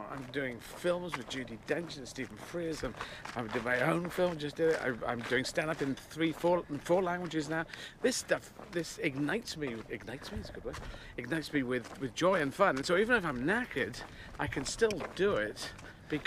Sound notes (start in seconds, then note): none